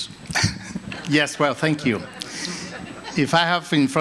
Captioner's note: laughter